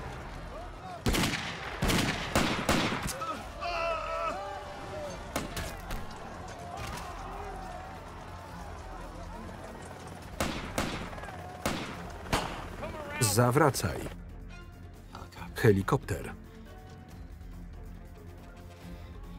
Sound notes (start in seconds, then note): 1.0 gunfire; 2.8 groaning; 10.3 gunfire